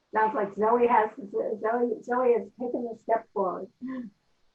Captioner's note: laughs